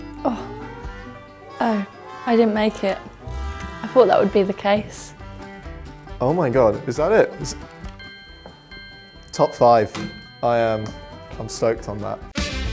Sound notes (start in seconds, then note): 7.9 bell ringing; 12.5 funky instrumental music